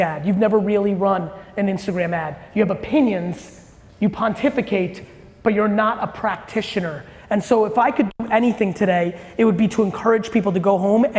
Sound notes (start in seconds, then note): none